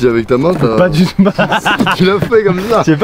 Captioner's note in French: rires